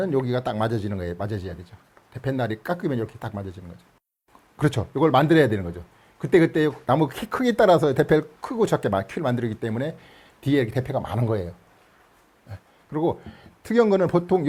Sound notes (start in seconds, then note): none